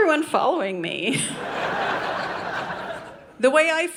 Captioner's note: audience laughing